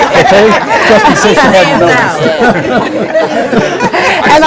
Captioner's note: laughing